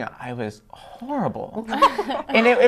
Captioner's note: laughter